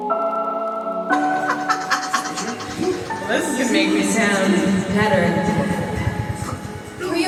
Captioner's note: laughs